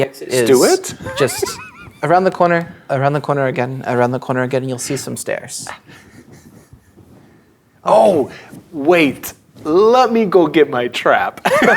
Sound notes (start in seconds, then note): 5.8 chuckling; 11.5 players laughing